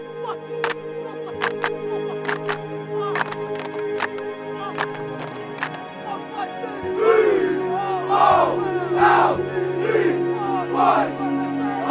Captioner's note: clapping and chanting